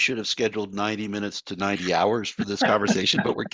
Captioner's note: laughter